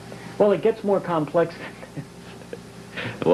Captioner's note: laughs